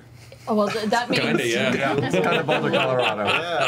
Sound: laughs

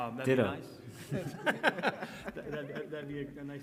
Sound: all laughing

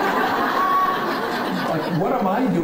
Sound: laughing

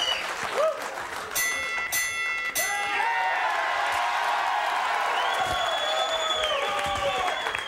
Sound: bell dinging; audience cheering

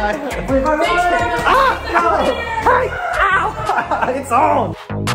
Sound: group in unison; group shouting; screams

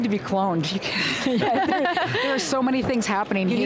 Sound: laughter

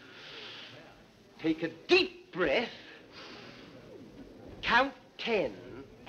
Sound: breathing deeply

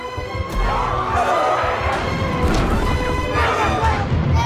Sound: shouting

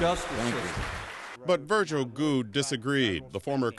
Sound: applause

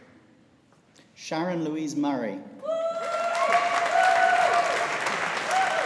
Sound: audience applauding

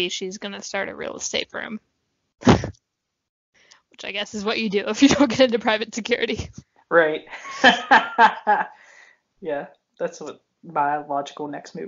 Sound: laughs

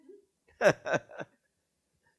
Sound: laughs

